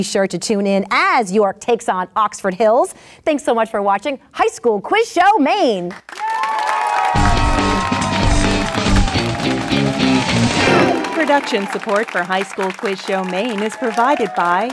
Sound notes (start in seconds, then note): 6.1 applause; 9.7 fast beat